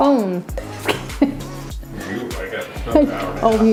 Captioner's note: laughing